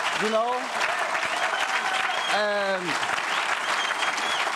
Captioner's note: audience cheers